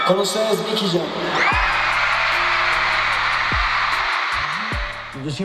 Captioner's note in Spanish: público aclama